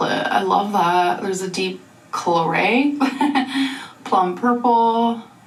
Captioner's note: woman chuckling